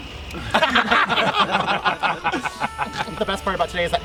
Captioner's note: everyone laughing